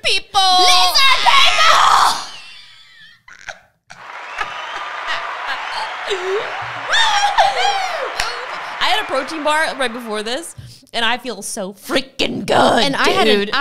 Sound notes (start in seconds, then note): 2.4 yelling loudly; 3.9 canned applause; 4.8 both laughing